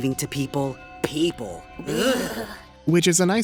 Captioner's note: both shuddering